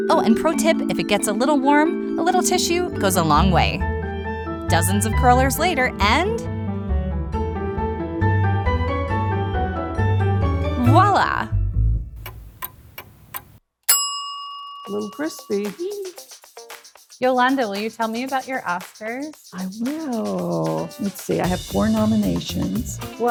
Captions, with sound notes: Oh, and pro tip, if it gets a little warm, a little tissue goes a long way. Dozens of curlers later and... (gentle bright music) Voila! (clock ticking) (bell dings) - Little crispy. - Eeee Yolanda, will you tell me about your Oscars? - I will. Let's see, I have four nominations.